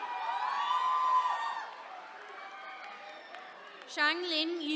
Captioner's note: attendees cheering